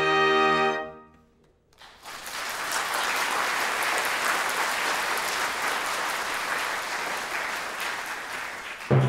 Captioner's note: applause